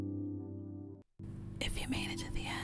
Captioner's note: whispering